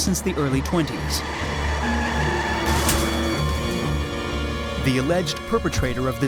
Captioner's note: squealing tires; dramatic music